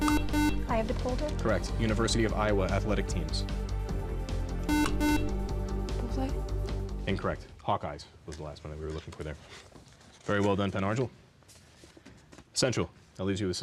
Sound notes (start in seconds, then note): 3.1 buzzer